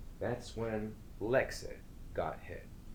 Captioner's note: none